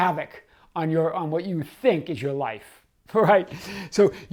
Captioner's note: chuckling